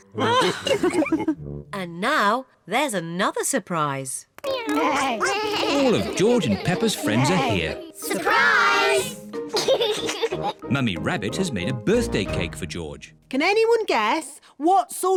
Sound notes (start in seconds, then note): 0.2 all laugh; 4.5 all making animal sounds; 9.5 laughs